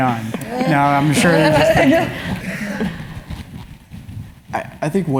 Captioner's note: laugh